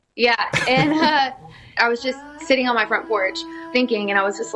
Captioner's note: laughs